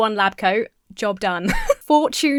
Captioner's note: Emma giggles